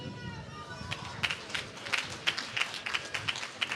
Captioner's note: applause